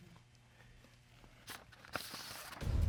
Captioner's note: envelope rustling; dramatic music playing